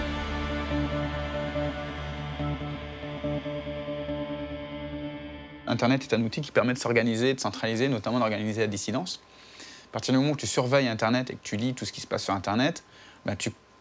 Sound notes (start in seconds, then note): 5.7 speaking in a foreign language